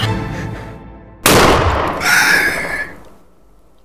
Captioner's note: gunshot